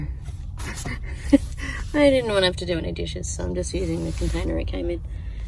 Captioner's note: chuckles